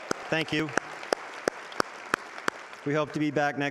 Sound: audience applauding

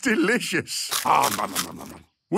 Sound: crunching

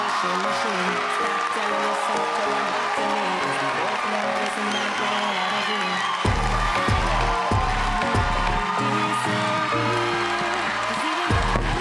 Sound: cheers and Applause

